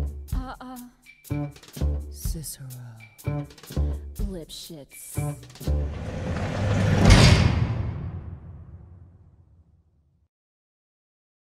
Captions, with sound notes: Uh-uh Uh-uh Uh-uh Cicero Cicero Cicero Lipschitz Lipschitz Lipschitz *Jail doors closing* *Jail doors closing* *Jail doors closing*